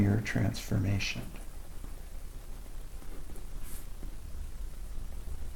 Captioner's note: writing Sounds